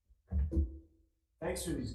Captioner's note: portfolio thuds